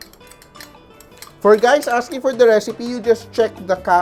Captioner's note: clang